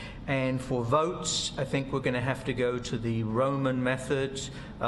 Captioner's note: none